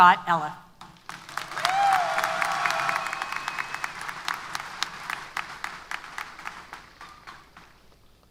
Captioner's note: applause & Cheers